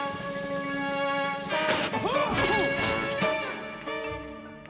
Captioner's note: tense music; yells; tense music